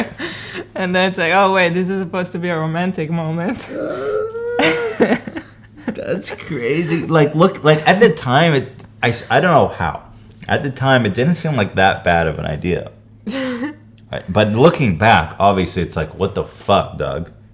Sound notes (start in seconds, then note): 3.5 squeals of regret and loathing